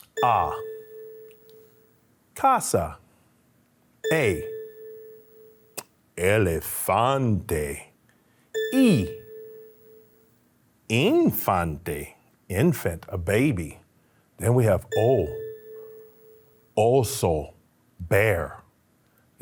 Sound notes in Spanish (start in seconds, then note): 0.0 campanillas de tono; 14.9 campanillas de tono